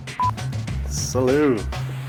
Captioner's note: electronic beep